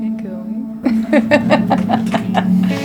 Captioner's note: laughter